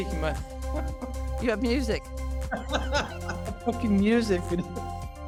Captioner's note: laughter